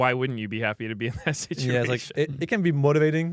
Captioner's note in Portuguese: risos